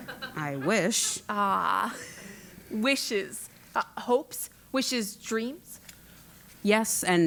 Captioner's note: laugh